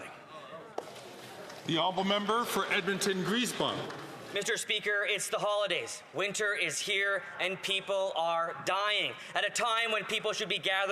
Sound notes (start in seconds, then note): none